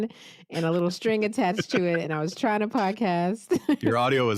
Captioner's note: laughs